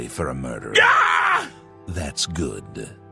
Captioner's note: Irish hero of kvatch screams